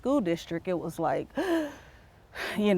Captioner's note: gasps